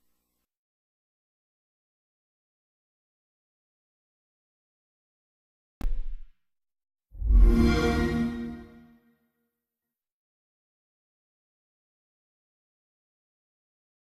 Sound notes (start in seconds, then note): 1.1 silence; 7.4 epic digital synth chord plays; 10.7 silence